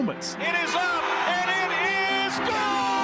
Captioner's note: radio call